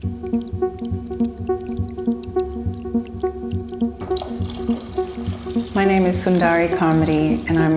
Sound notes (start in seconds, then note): 0.0 ethereal music; 0.0 liquid pouring